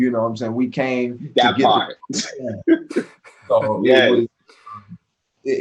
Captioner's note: Nicco laughing